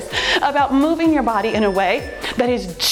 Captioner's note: timer beeps